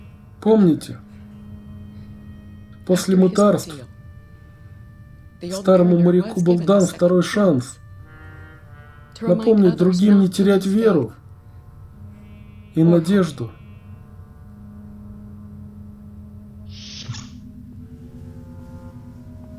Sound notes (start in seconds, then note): 16.8 door opens